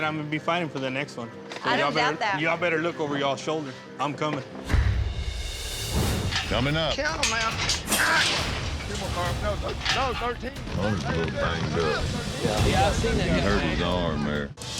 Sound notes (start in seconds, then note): 5.7 clanking sound